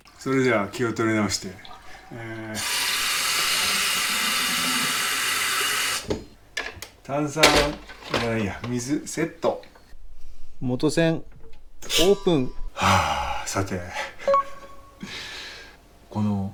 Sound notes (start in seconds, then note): 2.5 sound of adding water